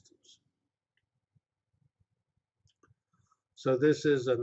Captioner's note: pause